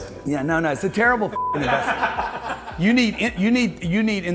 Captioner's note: beep